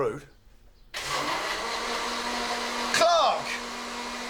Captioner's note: blender whizzes